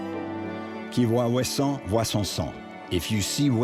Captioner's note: speaking in foreign language